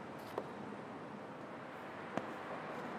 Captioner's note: none